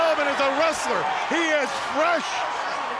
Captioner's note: crowd chattering